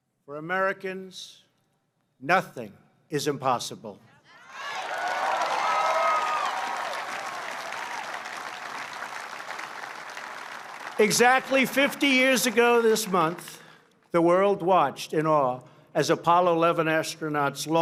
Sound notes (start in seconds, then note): 4.5 applause